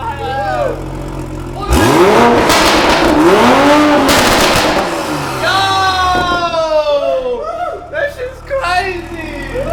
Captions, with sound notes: (cheering) (cheering) (engine revving) Yooooooooooo! That shit's crazy.